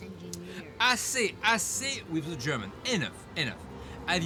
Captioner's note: speaks in foreign language